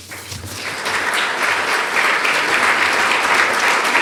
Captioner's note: applause